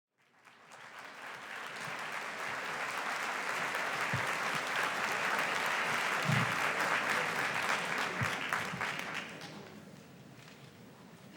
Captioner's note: applause